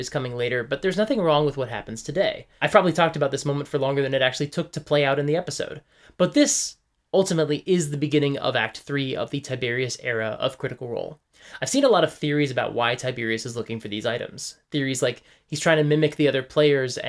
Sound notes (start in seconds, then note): none